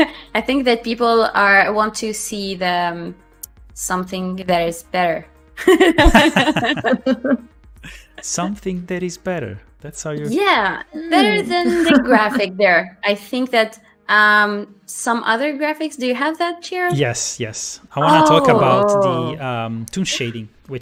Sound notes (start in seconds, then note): 5.6 laughter